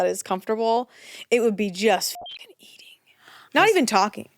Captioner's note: beep